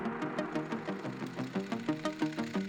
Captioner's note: camera whirring